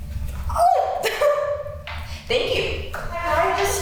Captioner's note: chuckles